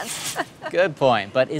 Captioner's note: laughter